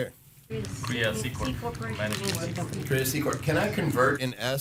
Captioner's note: audience chattering